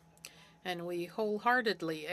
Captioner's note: speaking French